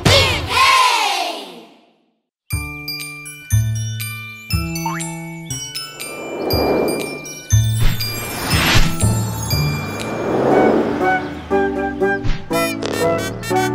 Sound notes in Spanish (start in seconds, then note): 2.4 Música Alegre; 2.4 Sonido de bocina